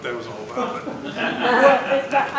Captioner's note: laughter